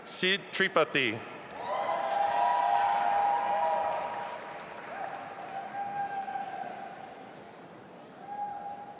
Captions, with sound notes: Sid Tripathi. (audience applauding and cheering)